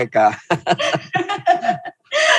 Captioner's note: laughing